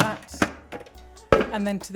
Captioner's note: lid clicks and thuds